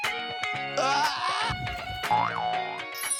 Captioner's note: boing